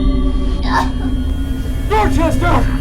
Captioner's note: Shelby choking